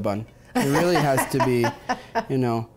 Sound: laughs

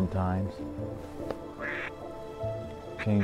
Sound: duck calls

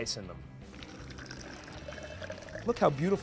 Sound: drink trickling

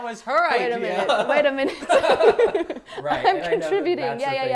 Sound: laughs

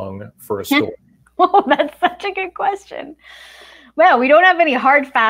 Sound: laughs

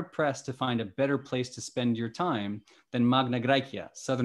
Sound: speaking greek

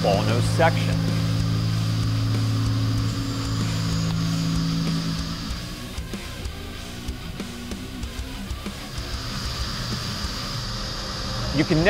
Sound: machining noises

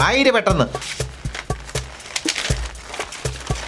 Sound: paper rustles

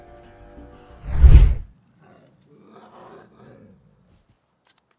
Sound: grumbling

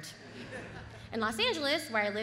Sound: audience laughs

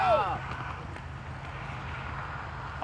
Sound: kids yelling

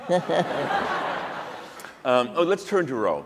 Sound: laughter

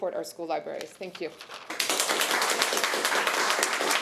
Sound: applause

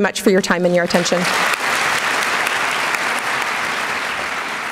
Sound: applause

